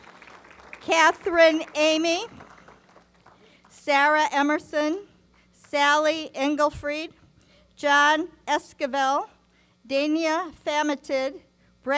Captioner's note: applause